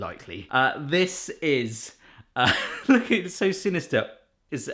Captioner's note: laughs